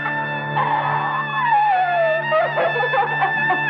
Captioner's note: Crying